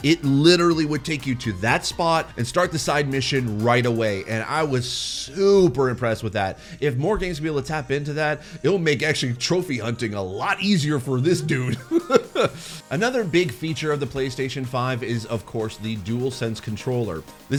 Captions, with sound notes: It literally would take you to that spot and start the side mission right away and I was super impressed with that. If more games will be able to tap into that, it'll make actually trophy hunting a lot easier for this dude. (laughing) Another big feature of the PlayStation 5 is of course the DualSense controller.